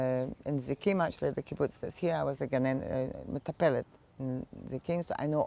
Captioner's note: hebrew